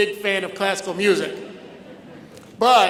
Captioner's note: audience laughs